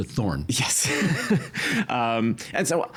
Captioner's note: chuckling